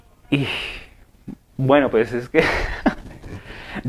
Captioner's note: chuckles